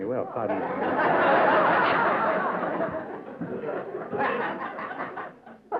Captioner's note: laughter